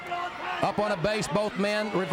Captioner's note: crowd chatter